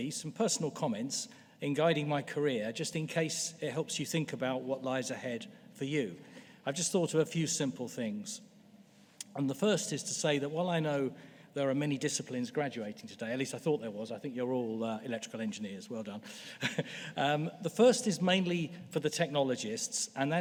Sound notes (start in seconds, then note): 16.6 laughs